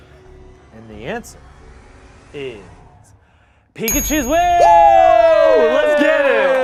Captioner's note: cheers